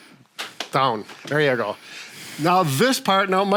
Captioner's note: hands slap